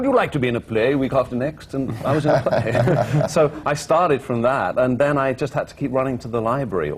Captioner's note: laughter